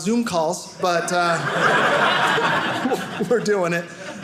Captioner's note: audience laughing